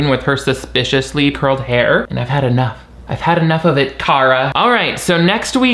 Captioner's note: none